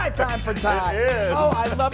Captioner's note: laugh